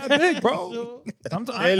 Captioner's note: all Chattering